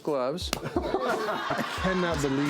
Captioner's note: audience laughing